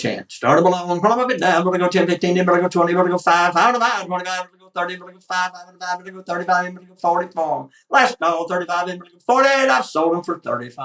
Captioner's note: auction chant